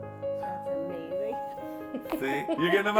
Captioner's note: laughs